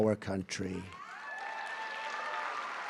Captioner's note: applause